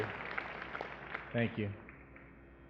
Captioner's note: applause